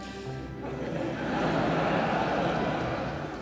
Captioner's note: audience laughing